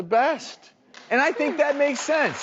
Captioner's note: audience applauding